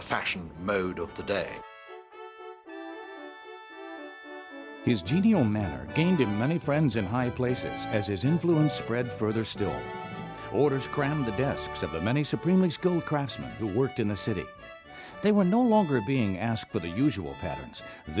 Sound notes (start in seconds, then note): 2.7 orchestral music; 5.3 voiceover